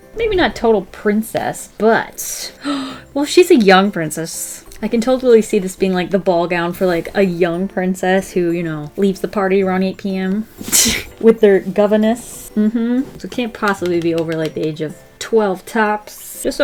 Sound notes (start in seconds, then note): 2.5 gasps; 12.6 laughs